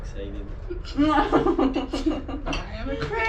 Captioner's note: laughter